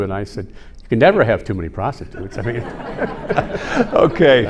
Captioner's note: everyone laughing